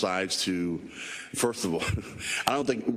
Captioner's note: laugh